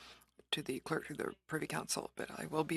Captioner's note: speaking french